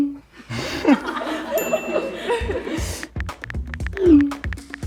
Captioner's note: girls laughing